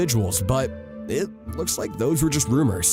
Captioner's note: none